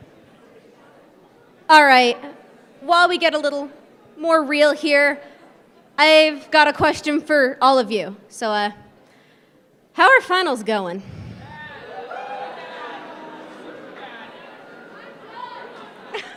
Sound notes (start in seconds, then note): 11.1 crowd booing